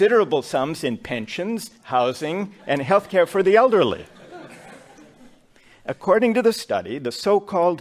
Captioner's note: laughter